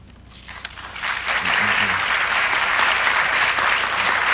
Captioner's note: audience clapping